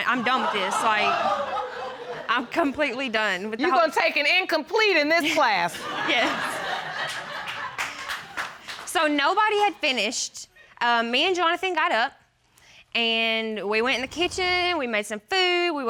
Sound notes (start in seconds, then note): 0.0 audience laughing; 6.0 audience laughing, applauding; 6.1 laughing